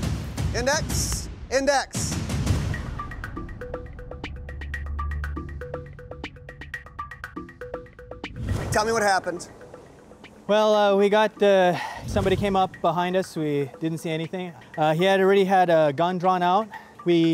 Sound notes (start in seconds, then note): 3.3 electronic music; 11.7 sighs